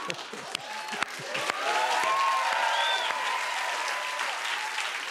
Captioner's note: laughter; cheers and applause